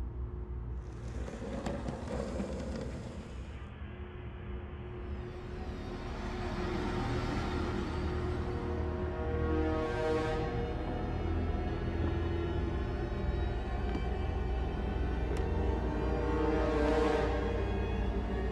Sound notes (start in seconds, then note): 0.8 wheels rolling; 4.9 ominous music